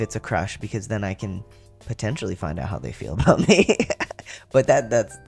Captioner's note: laugh